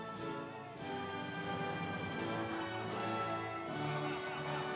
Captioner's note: audience applauds